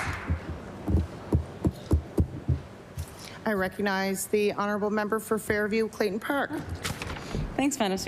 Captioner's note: applause